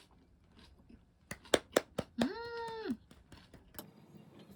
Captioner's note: A seal clap of joy